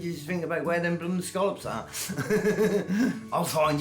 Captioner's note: laughs